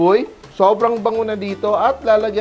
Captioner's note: sizzle